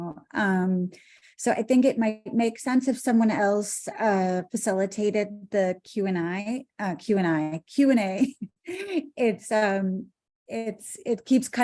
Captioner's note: laughter